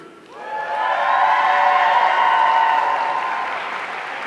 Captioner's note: audience cheering